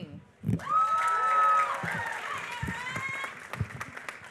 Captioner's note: applause